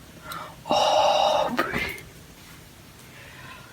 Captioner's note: whispering